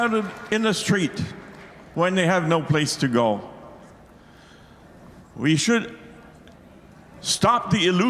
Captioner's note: applause